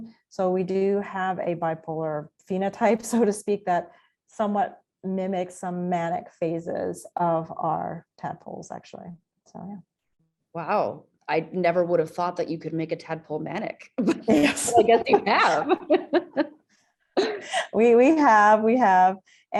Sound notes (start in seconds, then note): 14.2 chuckles; 15.9 laughs